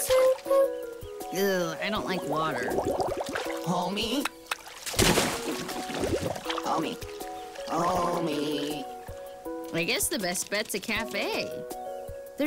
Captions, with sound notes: Eww, I don't like water. Homie? (claws click) (splash) Homie. Hooomieeee I guess the best bet's a café.